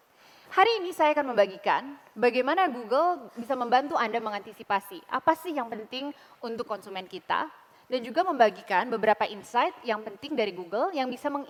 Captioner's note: non-english speech